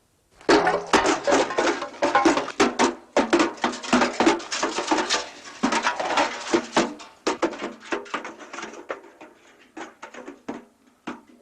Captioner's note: kicked bucket rolling downhill